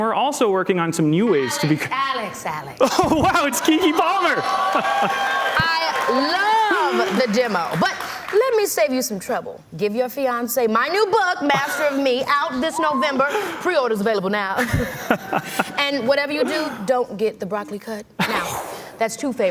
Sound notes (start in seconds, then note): 8.3 applause